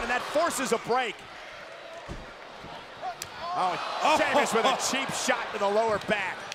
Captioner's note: applause